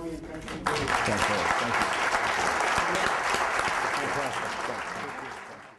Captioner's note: applause